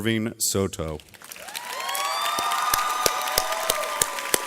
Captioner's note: audience cheers